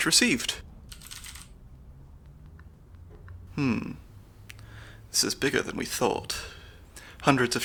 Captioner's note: earpiece beeps; typing sounds